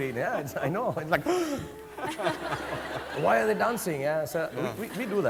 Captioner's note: gasps